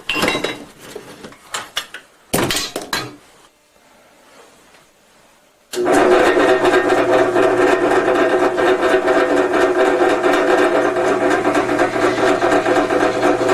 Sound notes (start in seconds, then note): 5.7 machinery turning on; 11.2 grinding noise